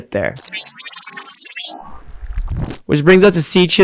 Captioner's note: machine whirring